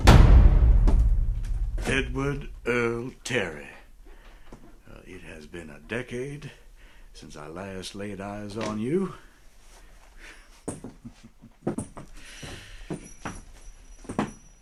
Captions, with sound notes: Edward Earl Terry, it has been a decade since I last laid eyes on you. [chuckles]